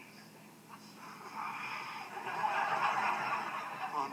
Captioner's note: annoyed sigh